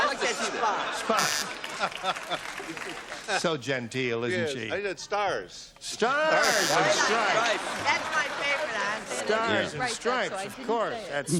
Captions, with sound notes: I said spots. - Spots. [buzzer] [laughter] So genteel, isn't she? - Yes. I said stars. - Stars-- [buzzer] --and stripes. - --stripes. - That's my favorite. - Stars and stripes, of course. - --so I didn't say it.